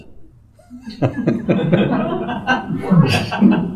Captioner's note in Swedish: skratt